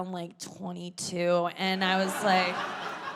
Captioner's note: audience laughing